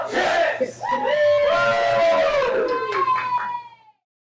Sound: group cheers

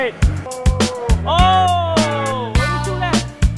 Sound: oooooh!!!

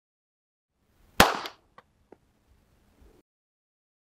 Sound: gunshot

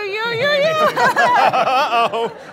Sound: laughing

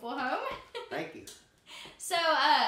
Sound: chuckling

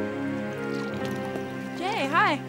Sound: soft, dramatic music; liquid pouring into cup

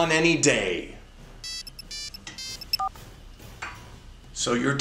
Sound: The N-Gage rings again, Alex silences it

